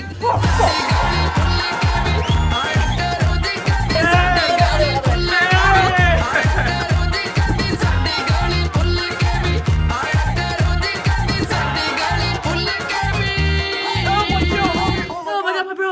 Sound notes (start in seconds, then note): 0.3 upbeat music; 5.6 laughs; 7.0 upbeat music